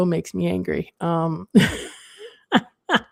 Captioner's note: laughs